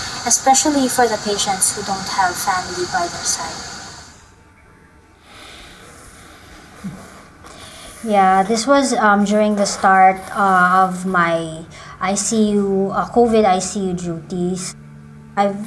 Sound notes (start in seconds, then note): 5.2 both sigh